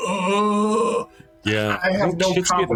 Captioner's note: groaning